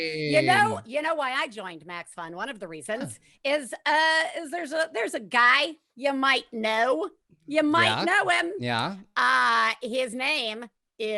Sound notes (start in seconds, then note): none